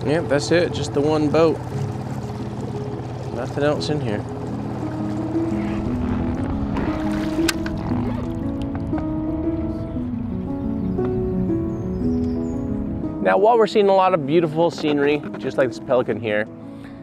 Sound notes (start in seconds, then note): 5.6 gentle piano music; 5.6 water splashing; 10.2 birds chirping